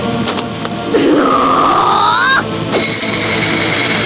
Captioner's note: roaring